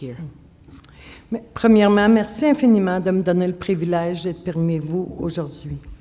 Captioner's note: speaking French